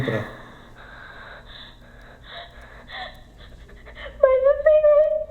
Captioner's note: sound of crying